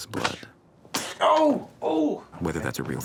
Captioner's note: Joe grunting